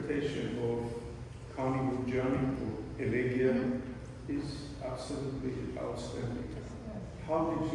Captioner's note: non-english speech